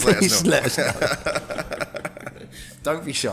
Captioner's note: laughing